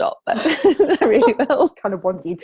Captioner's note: laughing